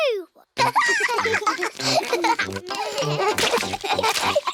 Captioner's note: both giggling